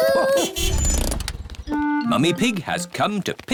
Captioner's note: horn honks